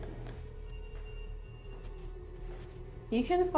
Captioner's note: EMF beeping